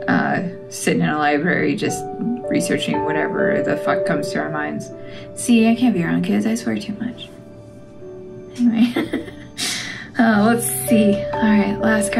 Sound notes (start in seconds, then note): 8.6 laugh